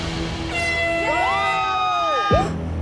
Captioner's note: air horn blaring; challengers cheering